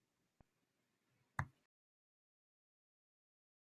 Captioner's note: click